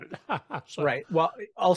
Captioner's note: laughs